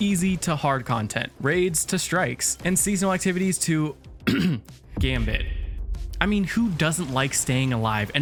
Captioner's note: cough